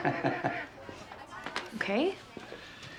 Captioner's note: Nash laughing